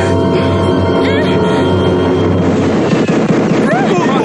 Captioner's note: explosive popping